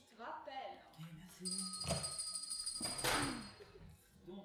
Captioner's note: the doorbell rings